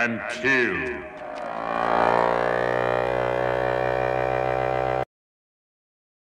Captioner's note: weird and distorted mechanical sound